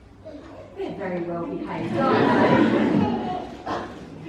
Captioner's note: laughter